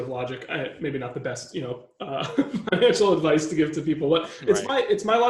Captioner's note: laughing